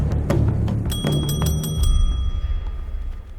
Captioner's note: table bell chimes